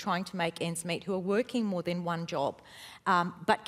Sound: none

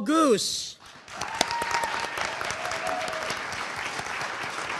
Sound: audience cheering

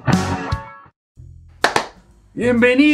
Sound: applause

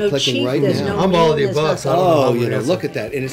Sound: chattering

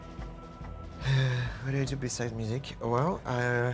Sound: sighs

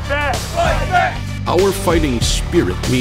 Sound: crowd

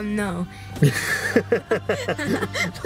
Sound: laughing

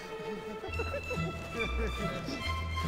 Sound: laughing

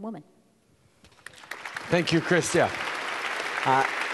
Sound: applause

